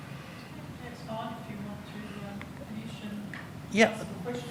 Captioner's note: indistinct background chatter